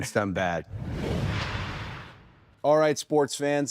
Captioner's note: logo swooshing